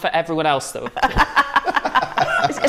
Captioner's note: laughter